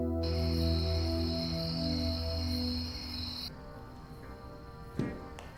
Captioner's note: insects chirping